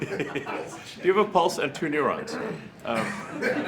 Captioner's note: laughter